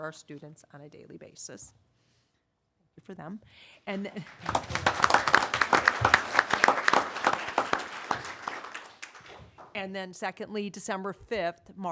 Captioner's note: applause